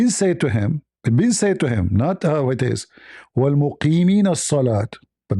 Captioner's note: reads in Arabic